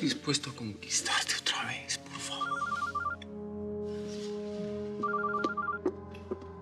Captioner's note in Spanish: suena el celular